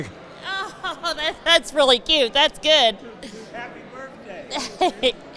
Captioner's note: laughs